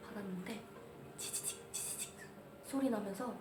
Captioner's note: static